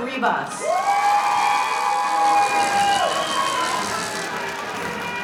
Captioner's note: audience cheering